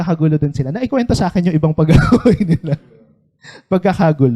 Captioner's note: laughs